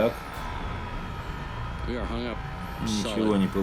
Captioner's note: whirring